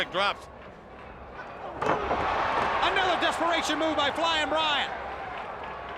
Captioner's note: crowd cheering